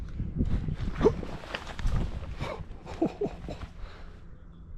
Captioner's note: chortling